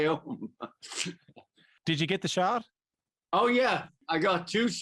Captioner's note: laughter